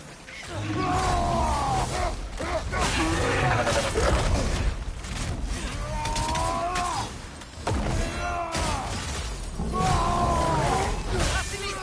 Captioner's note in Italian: urlo